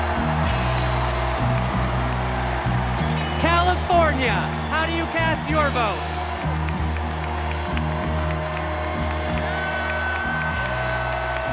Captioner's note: cheers and applause